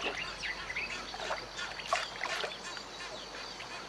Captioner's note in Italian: versi di animali